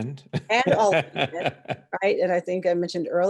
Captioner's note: chuckles